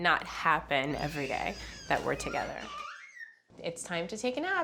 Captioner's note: squealing